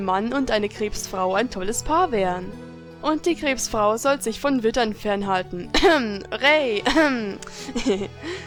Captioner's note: cough